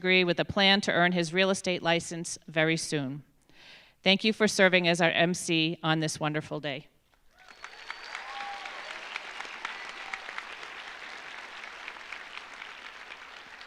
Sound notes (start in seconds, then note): 7.3 audience applauding; 7.3 audience cheering